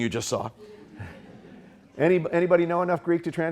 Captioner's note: audience chuckling